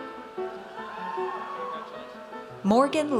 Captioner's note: audience cheers